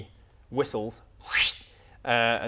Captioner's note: whistles